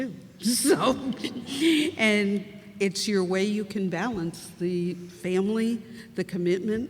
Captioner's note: laughs